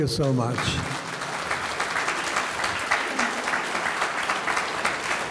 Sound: audience clapping

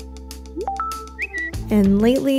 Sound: beeping

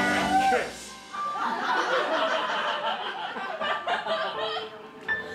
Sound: audience laughing

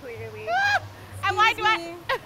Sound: yelps

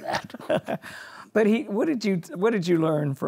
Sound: laughs

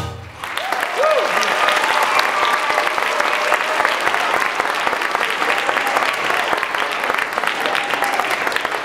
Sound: applause

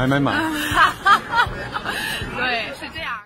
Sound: laugh out loudly

